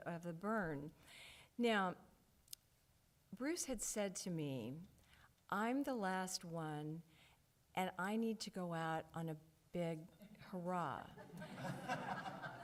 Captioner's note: audience chuckles